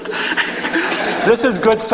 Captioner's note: laughing; laughs